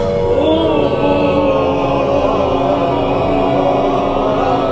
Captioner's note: crowd moaning